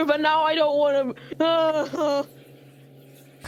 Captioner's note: crying noises